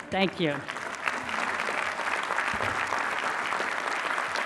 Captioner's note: applause